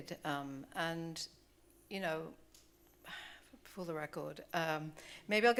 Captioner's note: sighs